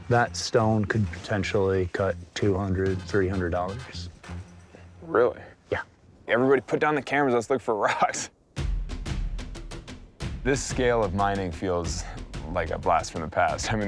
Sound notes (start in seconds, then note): 8.0 laughing; 8.6 dramatic music